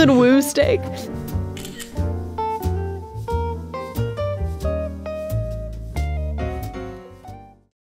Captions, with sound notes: It's a good woo steak! (camera shutter)